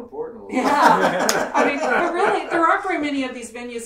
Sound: laughing

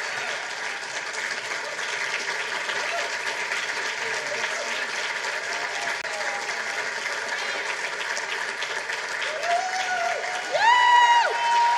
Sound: applause

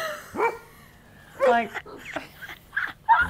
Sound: laughing

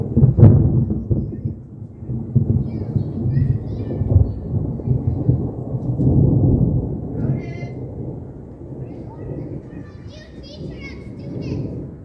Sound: thunder gets deeper

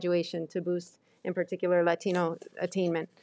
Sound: none

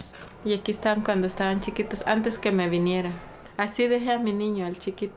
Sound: speaking Spanish

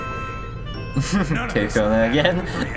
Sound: chuckles

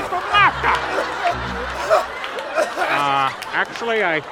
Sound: choking

